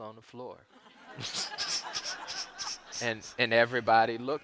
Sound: audience laughs

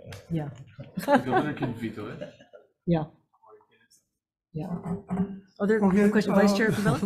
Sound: chuckles

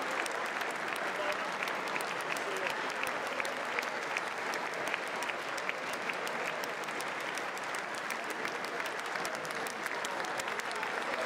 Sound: applause

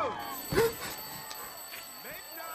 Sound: alarm ringing; gasping

